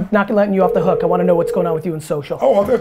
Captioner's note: phone rings